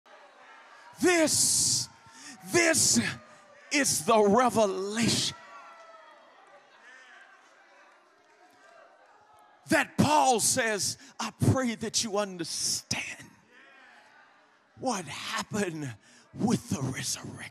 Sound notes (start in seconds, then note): 6.0 congregation cheering